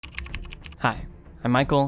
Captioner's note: keyboard clacking